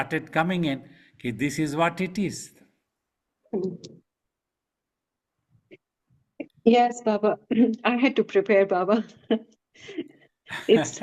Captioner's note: laughing